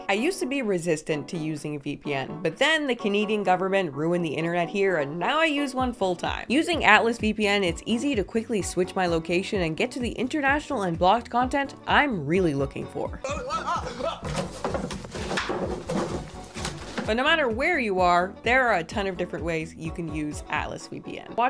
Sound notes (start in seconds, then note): 13.2 startled yelling; 13.8 wood thumping